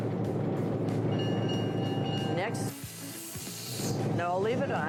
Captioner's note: bell ringing